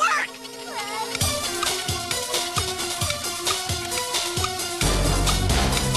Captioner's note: clock ticking; suspenseful music playing